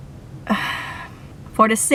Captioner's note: continues to sigh